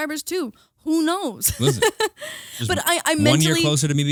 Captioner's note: laughing